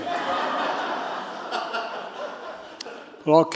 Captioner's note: laughter